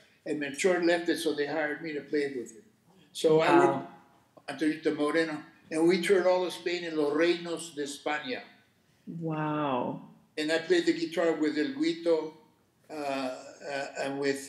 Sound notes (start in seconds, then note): 0.0 speaking Spanish; 4.1 speaking Spanish; 6.6 speaking Spanish; 12.8 speaking Spanish